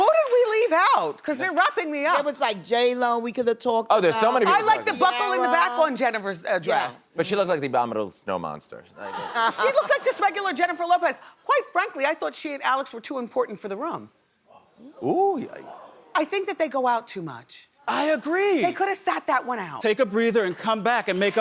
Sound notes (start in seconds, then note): 0.2 applause; 9.0 laughter; 14.4 crowd murmurs with shock